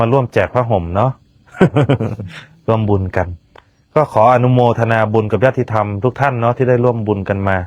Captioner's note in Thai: เสียงหัวเราะ